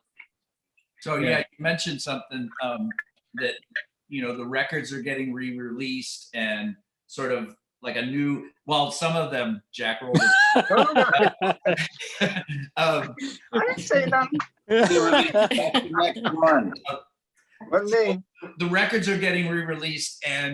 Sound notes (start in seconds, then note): 10.1 laughter; 14.6 laughing